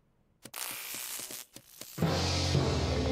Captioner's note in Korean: 전기가 연결되는 소리